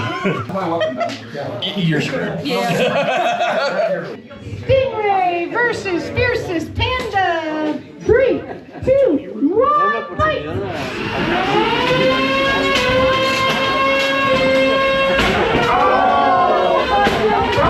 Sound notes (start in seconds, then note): 0.1 laughing; 10.8 robots whirring; 11.4 robots thudding